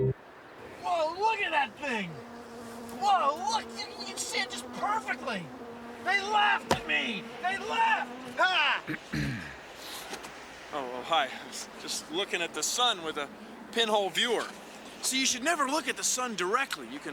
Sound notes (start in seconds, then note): 8.8 clears throat